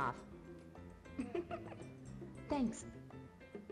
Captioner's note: woman laughs